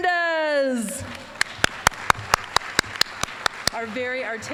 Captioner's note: applause